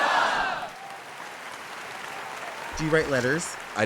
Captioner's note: canned applause